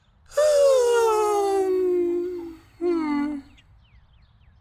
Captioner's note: Goofball sighs louder and more obnoxiously